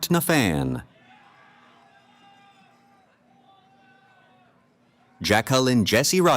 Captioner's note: cheering